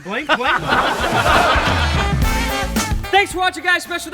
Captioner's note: laughs